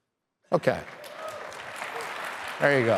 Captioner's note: crowd cheering